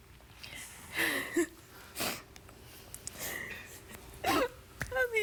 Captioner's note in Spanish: sollozos